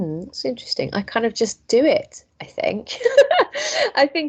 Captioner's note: laughs